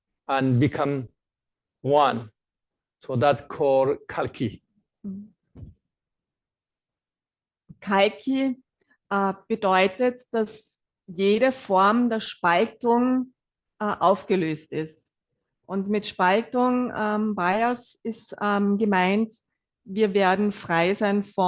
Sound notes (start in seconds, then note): 7.3 German live translation